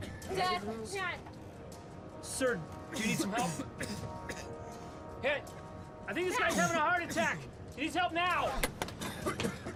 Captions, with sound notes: DAD. DAD. HMM? SIR, DO YOU NEED SOME HELP? [COUGHING] HEY. I THINK THIS GUY'S HAVING A HEART ATTACK. HE NEEDS HELP NOW.